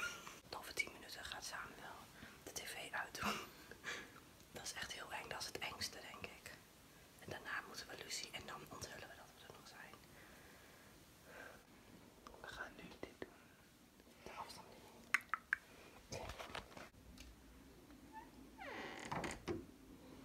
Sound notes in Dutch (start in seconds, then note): 10.1 diepe zucht; 18.0 deur kraakt